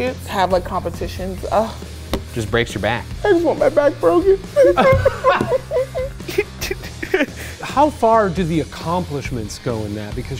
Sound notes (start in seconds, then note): 4.1 all laughing